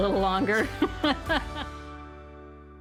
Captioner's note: laughing; gentle music